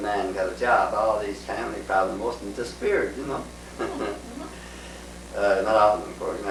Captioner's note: laughs